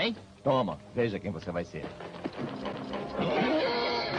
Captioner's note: whinnies